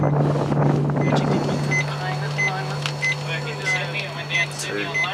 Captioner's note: general chatter